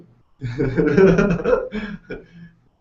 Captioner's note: chuckling